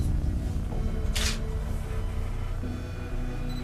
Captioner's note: tense music playing; camera clicks